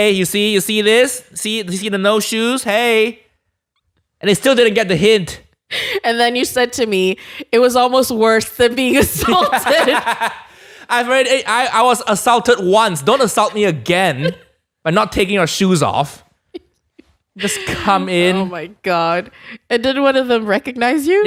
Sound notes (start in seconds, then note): 9.0 laughs; 17.4 laughs